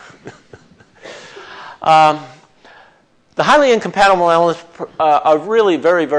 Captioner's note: chuckles